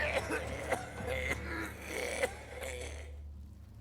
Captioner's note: panicked voice; coughs and retches; panicked voice